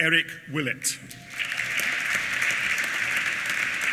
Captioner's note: applause